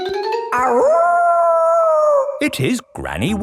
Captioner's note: kids yelling; howling